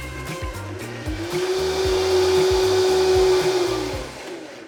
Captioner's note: blender whirs